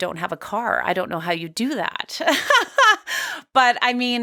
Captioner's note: laughs